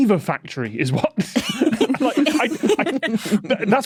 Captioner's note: group giggling